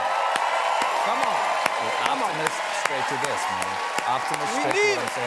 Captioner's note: cheers and applause